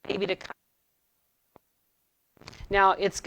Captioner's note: audio distorting